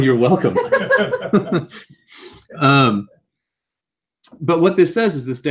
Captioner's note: laugh